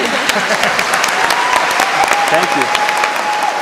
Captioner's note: applause